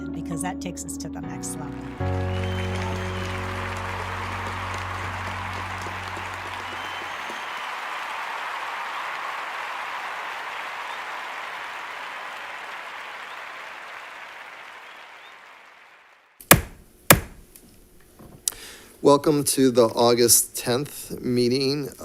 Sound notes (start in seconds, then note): 2.2 crowd cheers and applauds; 8.1 crowd continues cheering and applauding; 17.1 gavel bangs